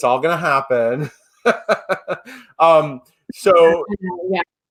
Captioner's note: laughs